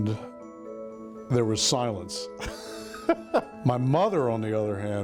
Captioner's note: laughing